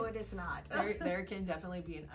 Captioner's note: laughing